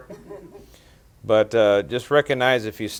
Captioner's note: reporters laughing